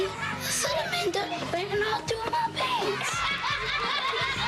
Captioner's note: laughter